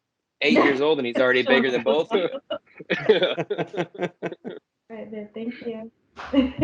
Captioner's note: laughter